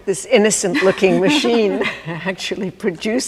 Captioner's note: laughs